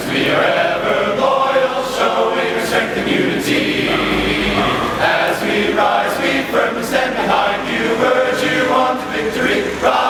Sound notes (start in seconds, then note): 2.6 dog barks in tempo!